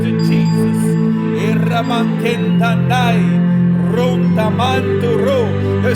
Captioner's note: hablando en lenguaje espiritual